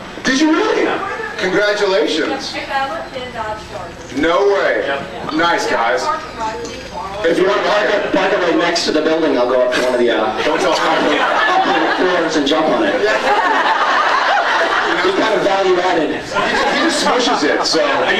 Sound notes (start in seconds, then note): 13.0 laughing; 14.3 laughs